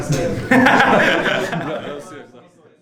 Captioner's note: laughing